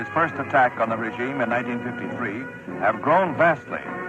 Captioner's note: archival news audio